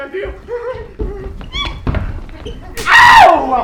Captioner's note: slap